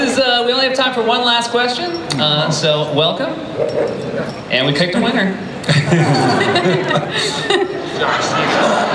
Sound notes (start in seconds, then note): 5.6 laughter